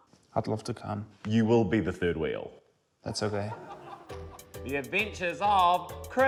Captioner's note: laughter